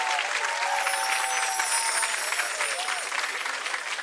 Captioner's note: chimes ring